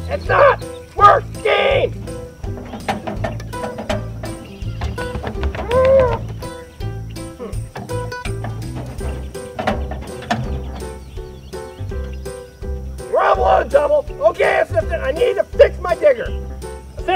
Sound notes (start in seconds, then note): 7.2 groaning